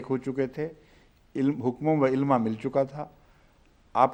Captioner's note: Arabic